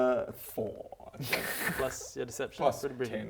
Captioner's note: sad giggle